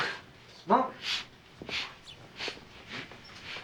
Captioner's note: Joe sniffing